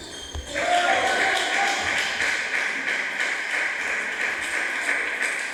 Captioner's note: applause